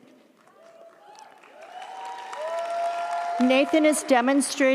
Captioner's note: audience applauds; audience cheers